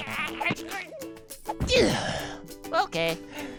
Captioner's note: groans; grunts